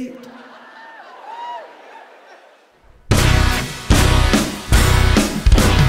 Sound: audience laughing and cheering

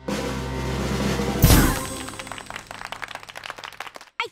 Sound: drumroll; clapping

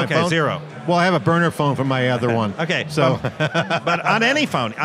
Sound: laughs

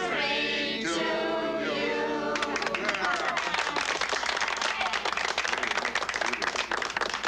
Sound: all clapping; all cheering

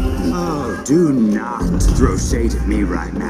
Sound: laughs

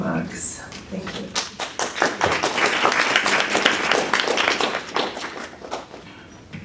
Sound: applause

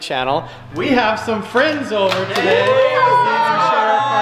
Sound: cheering

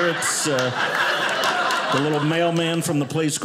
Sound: audience laughing

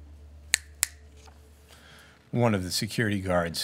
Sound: snaps fingers

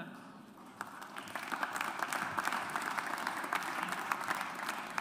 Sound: audience applauds

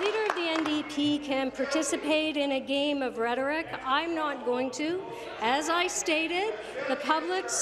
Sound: applause

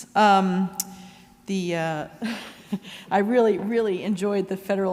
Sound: chuckles

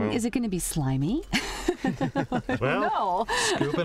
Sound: laughter

